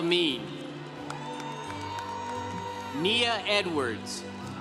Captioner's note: congregation cheering